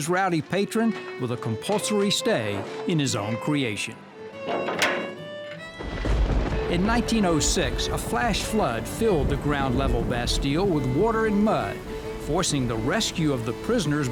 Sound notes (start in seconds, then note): 4.4 metal door closes; 5.8 thunder rumbling